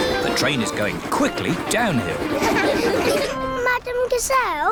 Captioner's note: laughter